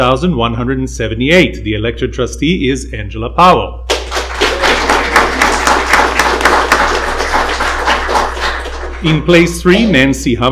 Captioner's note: applause